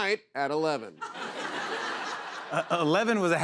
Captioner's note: laughter